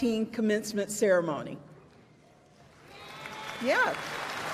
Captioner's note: applause